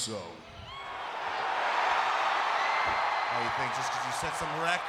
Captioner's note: crowd cheers